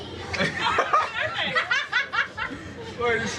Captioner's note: laughing